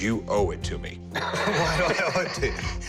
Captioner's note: laughs